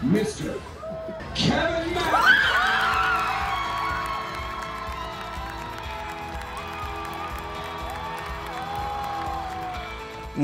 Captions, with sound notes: Mr. Kevin Mackey! (crowd cheering)